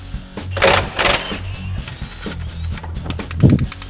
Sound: whirring

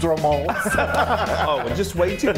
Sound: men laughing

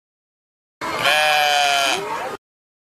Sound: sheep bleats

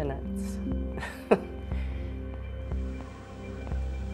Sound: laughs

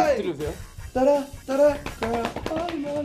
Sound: patting

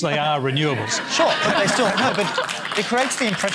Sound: derisive laughter and applause

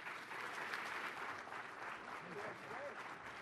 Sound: applause

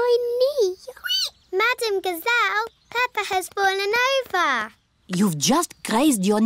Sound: squeaks

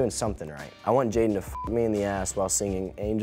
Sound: beep

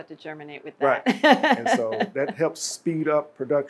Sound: laughs

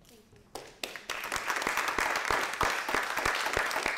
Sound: applause

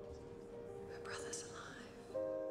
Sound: whispering

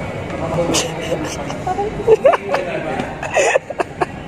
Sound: laugh

